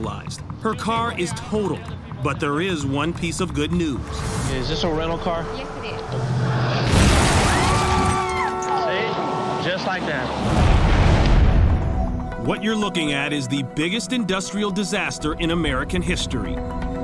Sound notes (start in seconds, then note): 7.3 screams